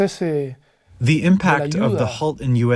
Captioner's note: through translator